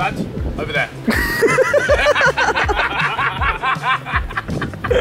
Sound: all laughing

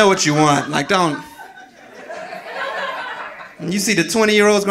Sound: audience laughing

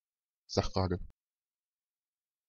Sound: fast Pronunciation

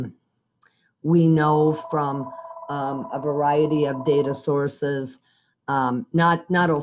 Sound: phone ringing

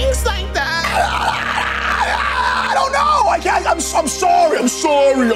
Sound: screaming

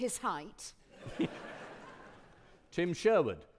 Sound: audience laughing

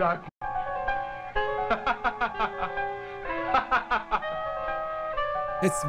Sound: cheerful laughter

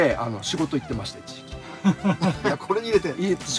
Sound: laughs

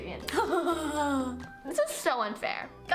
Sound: evil laughter

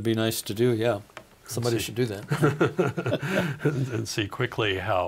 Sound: both laughing

